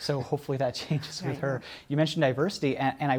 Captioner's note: laughter